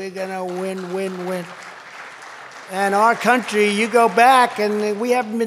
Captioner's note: applause